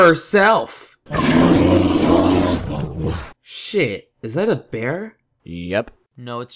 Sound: bear roar

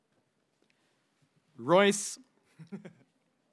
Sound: speaking in a foreign language

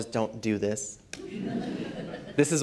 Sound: laughter

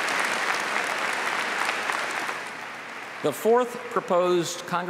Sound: applause

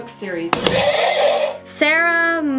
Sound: buzzer sounds

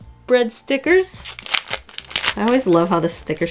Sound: packing crinkles

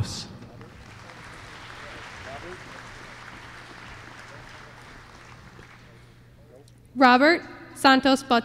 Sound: applause

